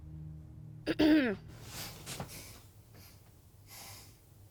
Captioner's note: Annie clears throat